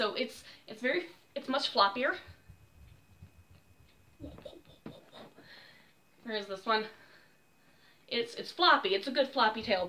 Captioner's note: womp womp womp womp